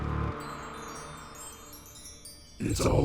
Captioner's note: twinkling